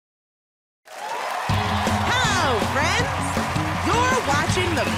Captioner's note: cheers and applause